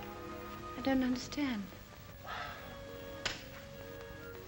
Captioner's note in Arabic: يتنهد; موسيقى ناعمة